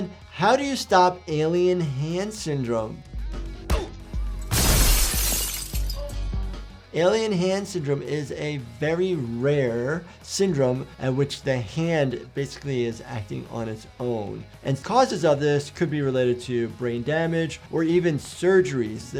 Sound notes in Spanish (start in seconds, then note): 4.4 vidrio roto